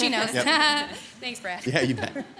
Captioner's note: laughs